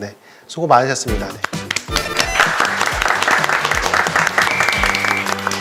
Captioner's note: clap, clap, clap, clap